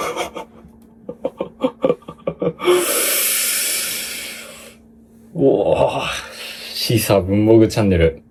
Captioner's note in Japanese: 笑い